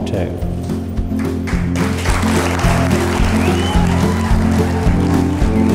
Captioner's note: crowd applauding